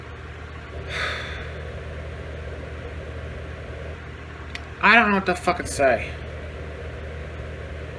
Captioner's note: sighs